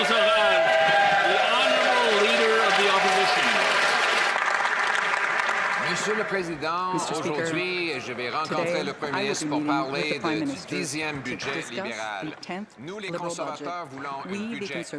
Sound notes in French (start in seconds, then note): 5.0 voix de l'interprète